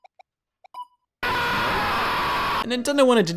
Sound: screams

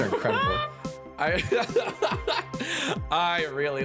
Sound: laughing

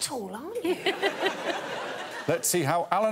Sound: all laughing

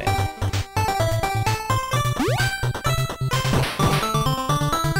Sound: game audio

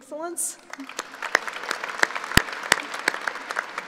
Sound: applauding

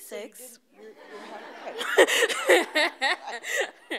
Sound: laughing

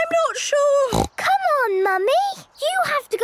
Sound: snorts

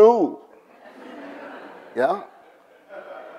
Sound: audience laughs

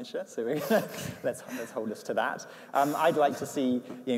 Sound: laughs

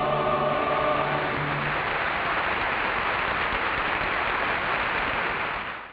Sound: audience applauds

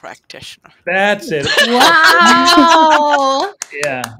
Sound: laughs; claps

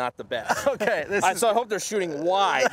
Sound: laughs

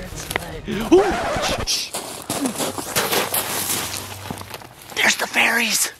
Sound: record scratches

